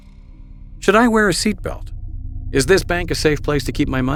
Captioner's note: voiceover